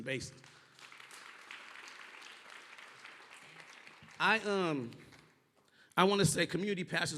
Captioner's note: applause